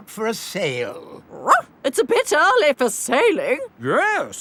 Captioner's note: barks